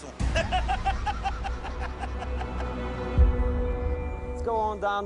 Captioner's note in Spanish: Risotadas